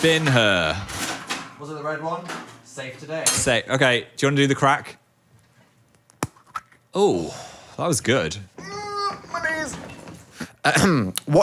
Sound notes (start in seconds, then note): 6.6 plastic ball cracks; 8.5 groans